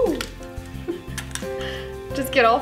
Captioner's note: chuckles